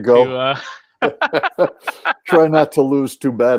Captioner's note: laughs